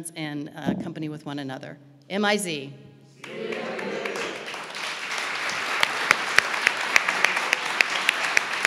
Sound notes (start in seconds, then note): 3.2 audience applauding